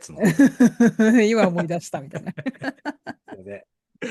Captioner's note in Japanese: 笑い